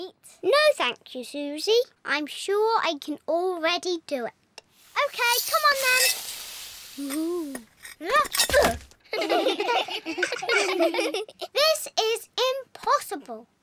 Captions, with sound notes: No, thank you, Suzy. I'm sure I can already do it. Okay, come on, then. Woo-hoh! Ahhh! Urgh! (ALL GIGGLE) This is impossible!